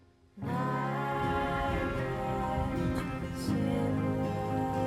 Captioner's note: rainfall